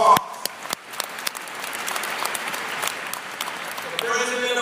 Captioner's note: applause